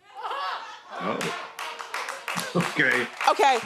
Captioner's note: audience laughing